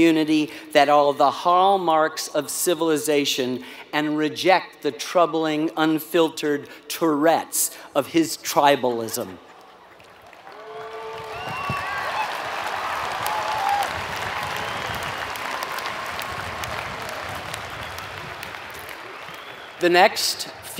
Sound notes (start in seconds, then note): 9.9 applause